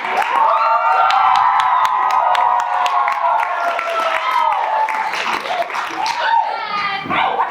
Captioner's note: audience cheers; audience cheers louder; yelps